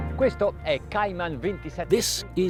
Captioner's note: speaking in foreign language